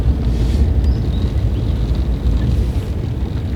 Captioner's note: turning wheel